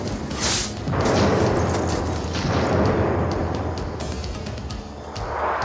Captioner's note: explosion booming